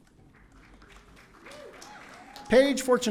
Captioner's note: audience cheering